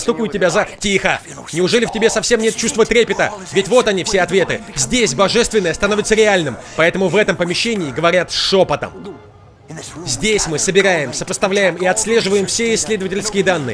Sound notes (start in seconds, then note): 8.8 <i>gulps</i>